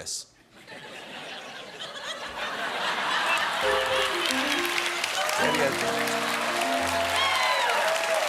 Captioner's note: laughter; piano riff; cheers and applause